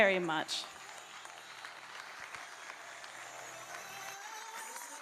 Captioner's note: audience applauding